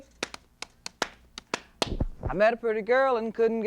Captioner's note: rhythmic clapping